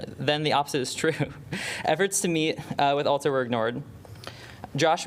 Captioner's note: laughter